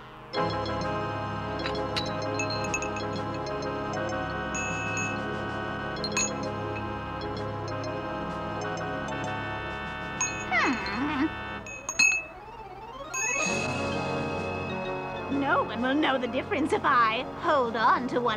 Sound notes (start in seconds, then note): 1.6 crystals clattering